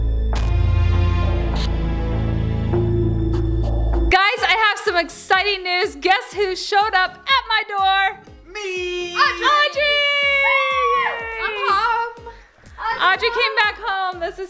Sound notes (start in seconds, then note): 9.8 screams